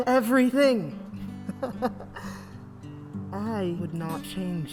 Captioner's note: laughs